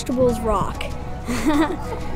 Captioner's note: laughs